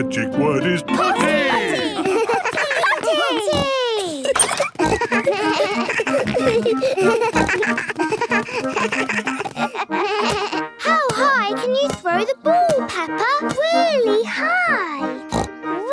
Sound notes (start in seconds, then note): 4.7 giggles; 6.4 snorts, bleating